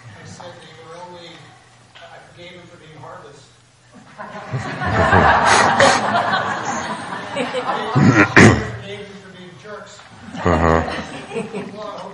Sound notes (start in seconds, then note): 4.2 laughing